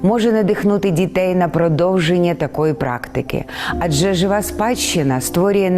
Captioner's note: speaking in foreign language